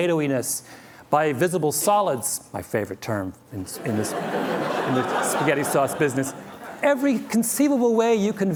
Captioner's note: laughter